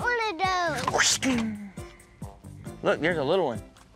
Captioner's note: fighting sounds